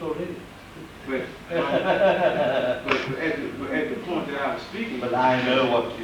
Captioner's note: he laughs